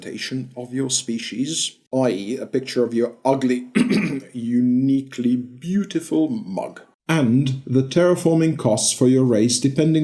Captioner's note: ahem!